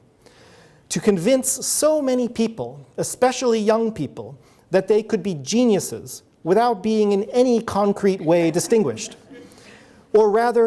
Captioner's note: audience laughs